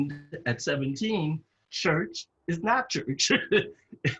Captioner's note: laugh